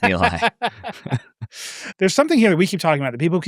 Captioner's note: laugh